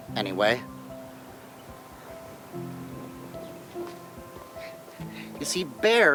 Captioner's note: bright piano music; wind whooshing